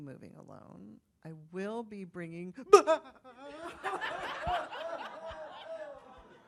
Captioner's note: sobs dramatically